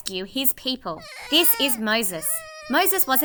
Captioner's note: baby crying